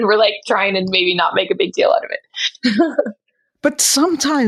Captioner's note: chuckles